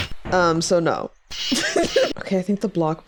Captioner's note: laughs